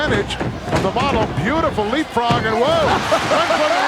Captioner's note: hillbilly chuckling